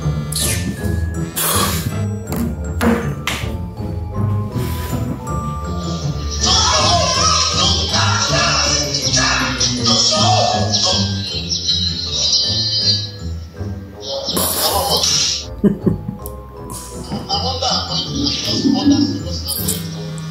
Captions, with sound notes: (laughs) I’m under anointing, I’m just under serious anointing.